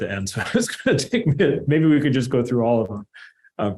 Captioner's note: laughter